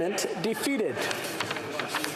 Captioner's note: speaking French